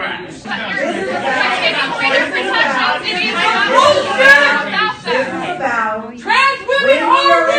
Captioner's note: yelling at her